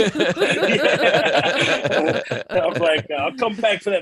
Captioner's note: laughter